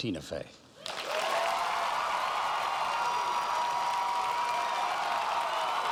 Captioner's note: cheers and applause